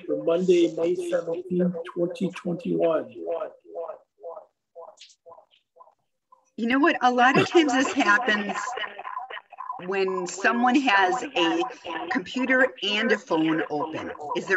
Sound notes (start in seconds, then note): 3.3 echoing